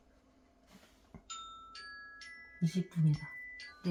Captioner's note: alarm rings